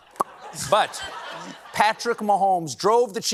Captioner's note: popping